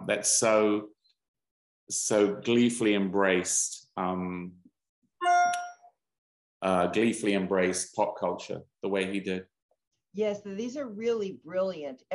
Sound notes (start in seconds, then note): 4.9 cell phone ping